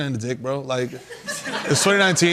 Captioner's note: laughter